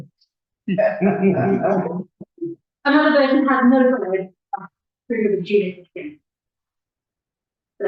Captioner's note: laughter